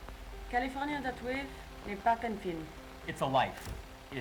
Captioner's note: translator speaking in French